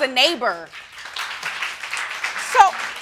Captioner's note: audience clapping